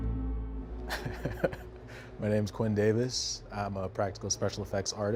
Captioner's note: chuckling